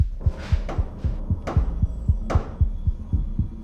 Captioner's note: three knocks with a baseball bat